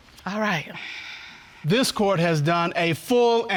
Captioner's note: sighs